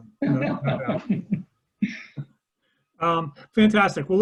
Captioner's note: laughing